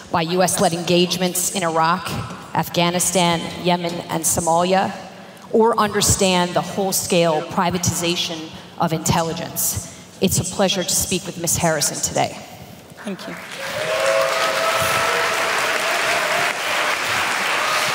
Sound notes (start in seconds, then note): 13.2 applause